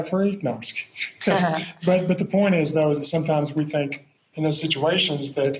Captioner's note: laughs